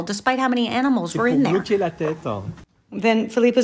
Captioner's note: man speaking in foreign language